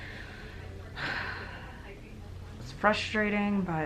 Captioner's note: sighs